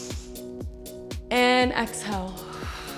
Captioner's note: exhales